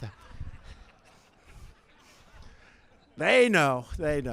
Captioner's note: laughter